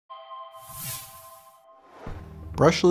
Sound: logo sound

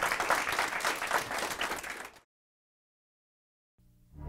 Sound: applause

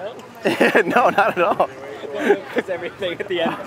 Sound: laughs

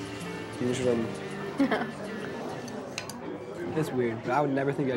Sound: laughing

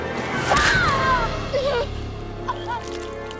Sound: screams

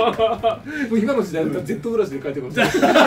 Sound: laugh

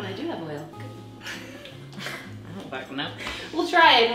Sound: laughing

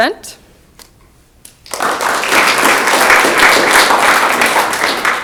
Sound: audience clapping

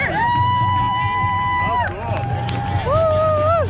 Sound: people cheer the plane flyover

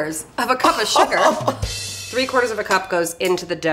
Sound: laughs

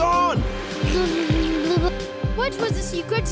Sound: blows raspberry

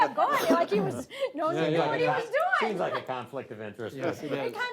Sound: all laugh; laughs

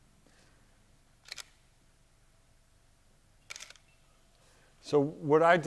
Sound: camera shutter clicks

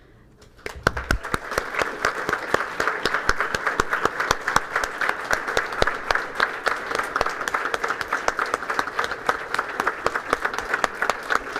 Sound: applause

